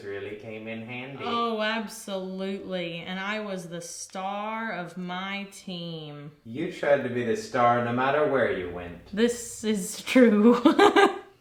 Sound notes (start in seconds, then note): 10.4 laughs